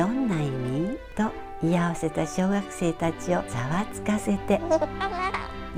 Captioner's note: laughts